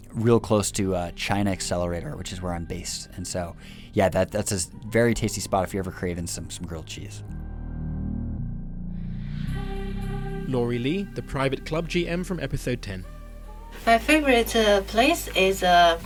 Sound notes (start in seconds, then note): 7.1 voiceover